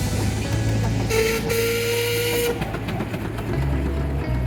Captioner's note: horn sounding